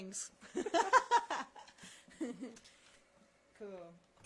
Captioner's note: laughter